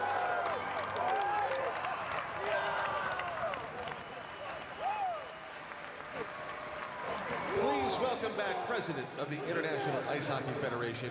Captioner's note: cheering and Applause